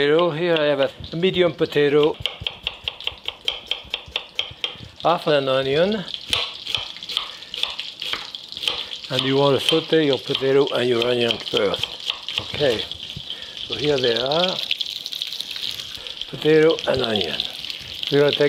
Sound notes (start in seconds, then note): 7.2 oil sizzling